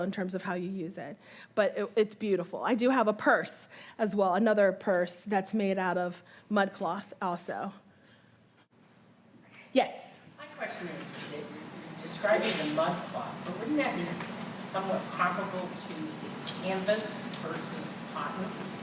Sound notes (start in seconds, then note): none